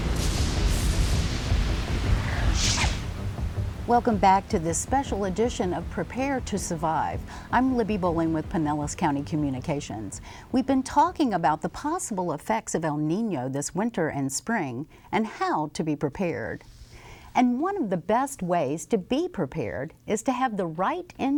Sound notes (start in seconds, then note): 2.8 rain falling; 3.9 thunder booming